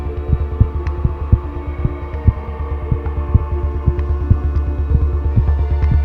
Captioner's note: heart beat slows down